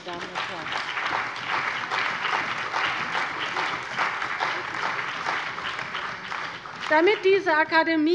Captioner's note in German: Beifall bei der CDU und dem BÜNDNIS 90/DIE GRÜNEN